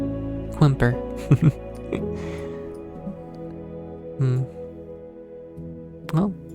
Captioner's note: laughter